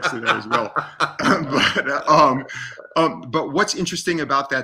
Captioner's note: laughs